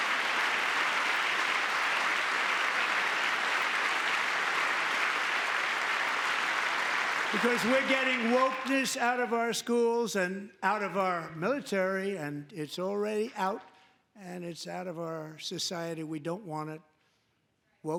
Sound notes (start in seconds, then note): 7.3 applause; 7.3 cheering